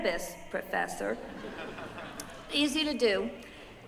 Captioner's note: laughter